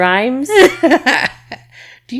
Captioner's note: laughing